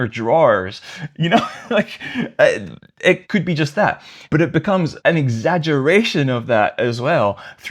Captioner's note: laughter